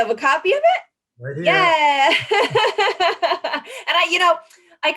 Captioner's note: laughs